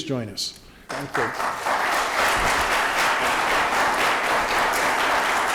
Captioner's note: audience applauds